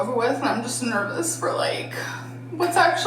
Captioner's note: sighs